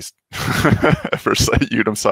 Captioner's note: laughing